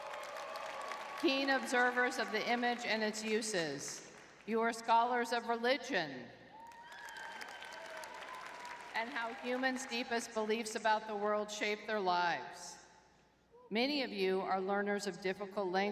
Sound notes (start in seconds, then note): 0.0 crowd cheering; 6.5 crowd cheering